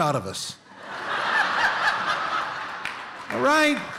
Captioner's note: laughter